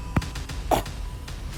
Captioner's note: cough